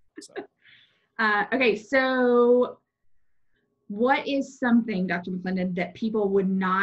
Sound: laughing

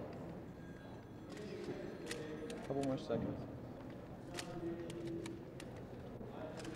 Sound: camera clicks

